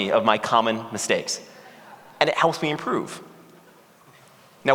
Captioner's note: laughter